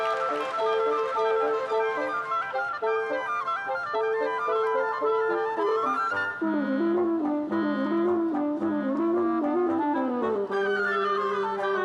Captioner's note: cheers and applause